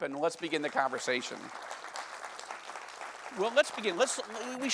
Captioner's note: audience applauding